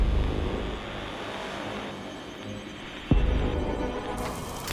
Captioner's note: interface buzzing